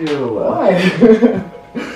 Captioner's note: laughing